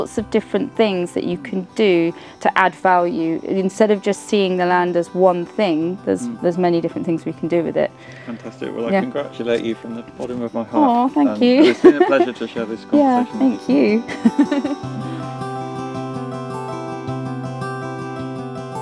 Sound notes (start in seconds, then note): 14.0 laughs; 14.2 light outro music